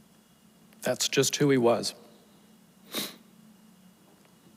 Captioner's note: sniffles